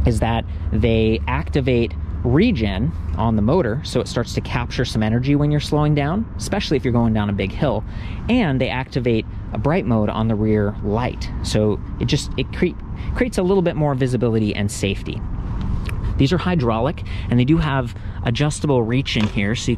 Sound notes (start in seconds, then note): none